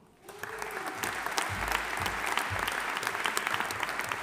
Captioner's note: audience applauding